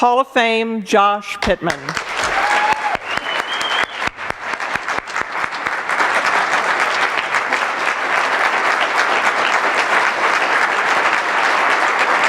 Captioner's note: applause